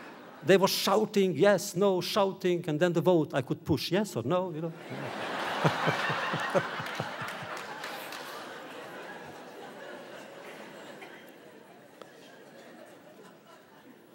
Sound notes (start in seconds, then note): 0.0 laughter; 4.7 audience laughter